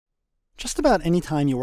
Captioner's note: voiceover